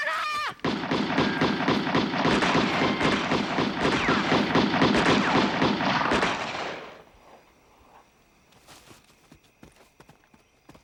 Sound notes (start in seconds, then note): 0.6 guns firing